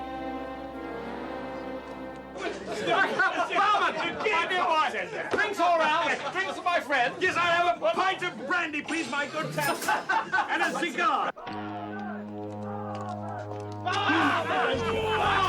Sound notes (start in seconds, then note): 2.8 men laughing